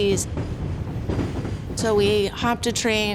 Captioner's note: train rumbling